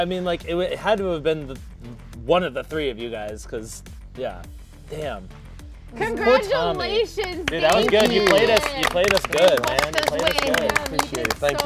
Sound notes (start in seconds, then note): 7.2 applause